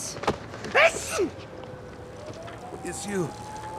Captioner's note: Peter sneezes